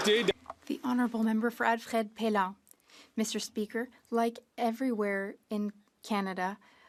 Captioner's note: some Applause